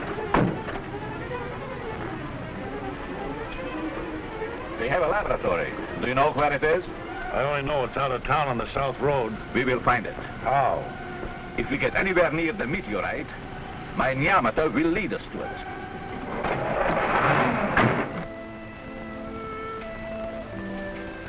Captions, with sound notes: (metallic thudding) - They have a laboratory, do you know where it is? - I only know it's out of town on the south road. - We will find it. - How? - If we get anywhere near the meteorite, my neomitter will lead us to it. (engine revving) (thumping) (pleasant music)